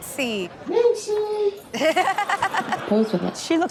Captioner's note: everyone laughs